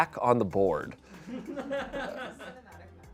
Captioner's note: audience laughing